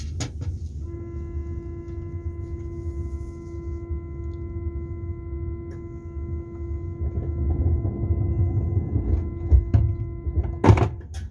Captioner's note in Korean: 출입문 닫힘